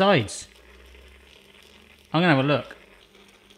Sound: bubbling

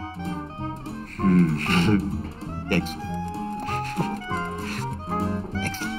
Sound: chuckles

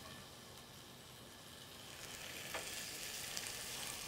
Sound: tomato hisses

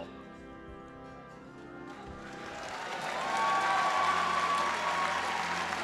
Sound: applause and cheering

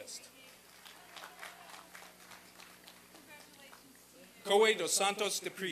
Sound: applause and cheering

